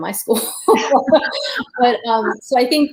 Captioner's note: laughter